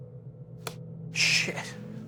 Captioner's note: clicking